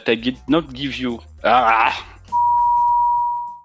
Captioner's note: groan